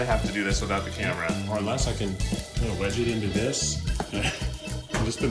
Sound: laughs

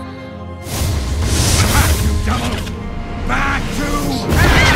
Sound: fire crackling

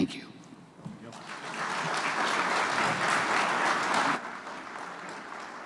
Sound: applause

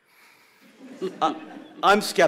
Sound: laughter

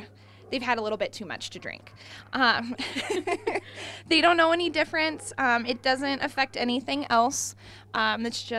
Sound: laughs

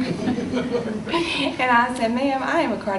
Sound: audience laughs

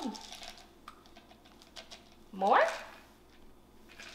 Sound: Cheerios rattling

